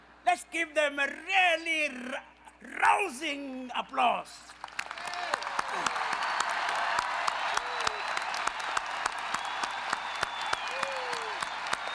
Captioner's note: rousing applause